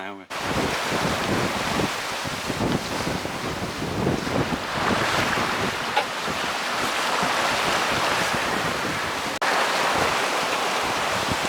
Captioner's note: sea Noise